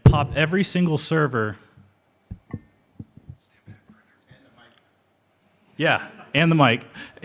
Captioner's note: laughter